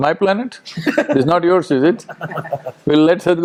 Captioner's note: Tanmay Bhat laughs